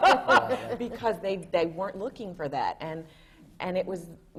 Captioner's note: laughs